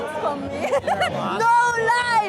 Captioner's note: laughs